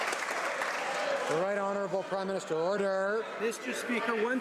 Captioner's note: some Applause